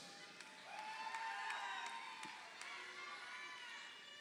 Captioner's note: crowd cheering